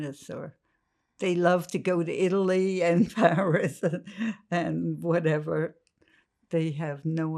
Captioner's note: laughing